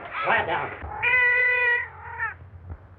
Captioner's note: cat meowing